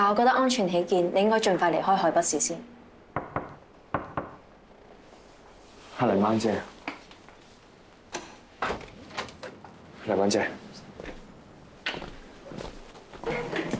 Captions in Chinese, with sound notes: 但我覺得安全起見 你應該先盡快離開海北市 [敲門聲] 是泥鯭姐 [門鎖開啟聲] 泥鯭姐